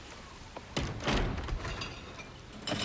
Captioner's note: clattering